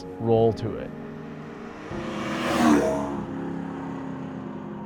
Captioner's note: car whooshing